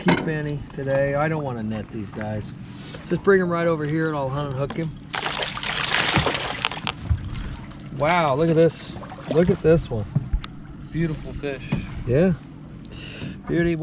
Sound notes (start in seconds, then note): 5.1 tackle rattling; 7.7 fish splashing